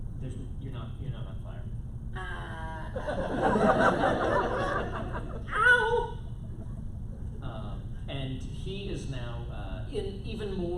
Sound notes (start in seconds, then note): 2.9 laughter